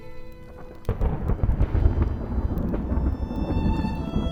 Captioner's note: large thunder clap